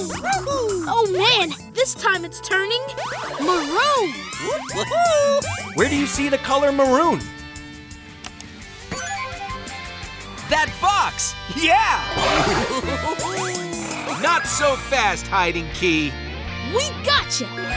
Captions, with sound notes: Oh man. This time it's turning... maroon. Where do you see the color maroon? That box! Yeah! [giggling] Not so fast, hiding key! We gotcha!